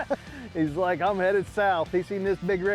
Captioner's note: laughter